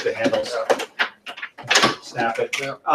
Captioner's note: desk top snaps